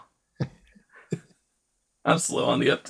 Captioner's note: laughs